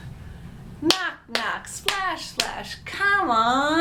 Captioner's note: claps